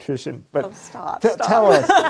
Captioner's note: laughter